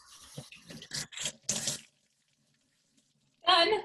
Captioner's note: water splashing